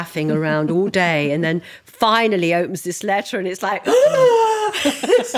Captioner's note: gasping